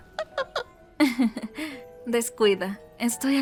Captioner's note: chuckles